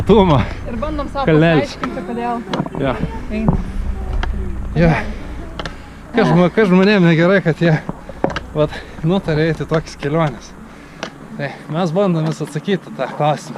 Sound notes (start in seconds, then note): 7.6 suffocating